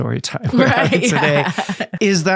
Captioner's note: both laughing